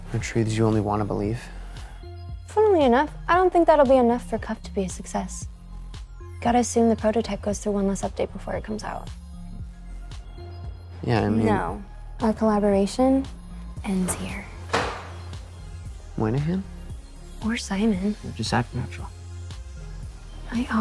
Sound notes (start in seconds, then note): 14.8 tap